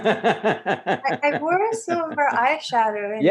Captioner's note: laughs loudly